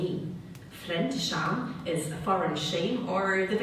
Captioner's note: speaking German